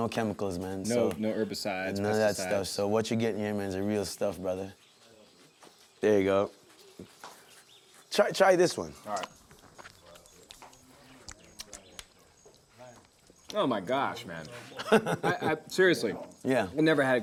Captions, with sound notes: - No herbicides, pesticides. - None of that stuff. So what you get here, man, is the real stuff, brother. There you go. Try this one. - All right. Oh, my gosh, man. - [laughs] - I--Seriously. - Yeah. - I've never had a grapefruit like this.